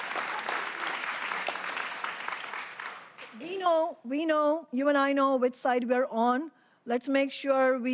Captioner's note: applause